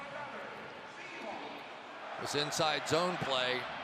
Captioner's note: pa announcement